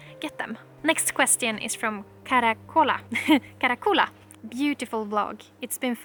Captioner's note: laughter